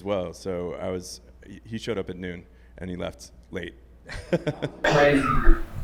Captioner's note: laughs